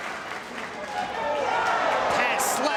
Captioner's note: spectators exclaiming